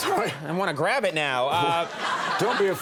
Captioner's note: audience laughs